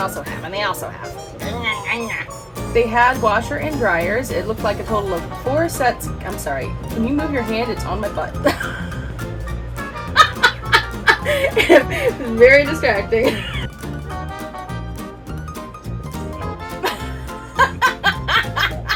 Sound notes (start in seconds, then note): 13.1 laughing